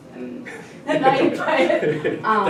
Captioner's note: laughter